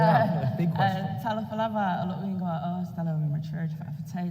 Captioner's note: speaking native language